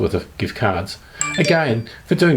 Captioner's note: phone beeping